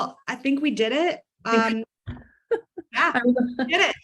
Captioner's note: laughs